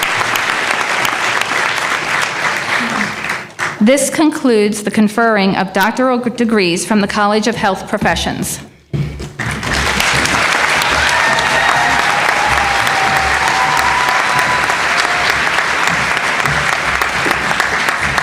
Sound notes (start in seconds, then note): 9.4 applause